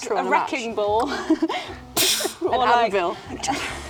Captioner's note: murmurs